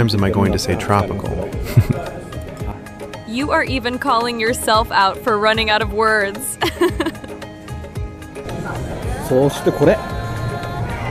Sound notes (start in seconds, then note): 6.5 haha